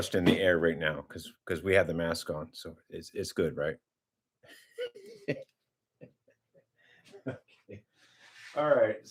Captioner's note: laughter